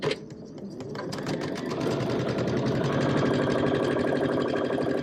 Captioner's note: sewing machine clunking